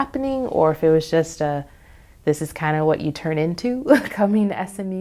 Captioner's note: laughs